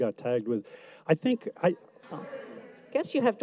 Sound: audience mumbles

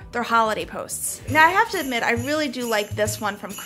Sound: bells jingling

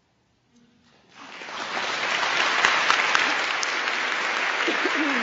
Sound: applause

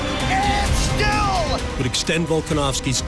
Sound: crowd loudly cheering

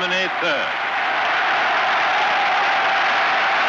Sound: cheering continues

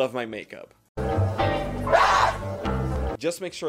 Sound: screams

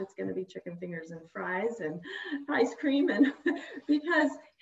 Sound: chuckles

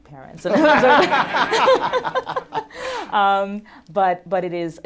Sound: laughter

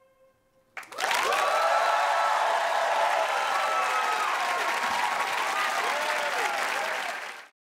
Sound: applause

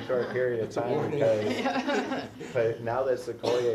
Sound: laugh

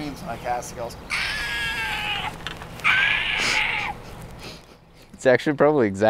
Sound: high pitched screeching

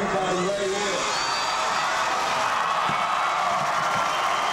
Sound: crowd cheering

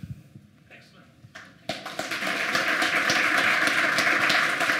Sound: applause

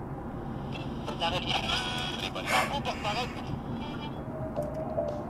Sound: radio static and chatter

